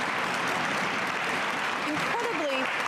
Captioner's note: cheers and applause